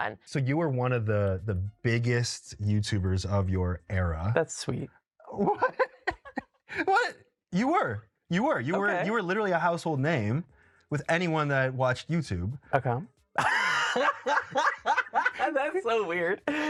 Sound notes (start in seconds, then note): 5.3 laughs; 13.3 both laugh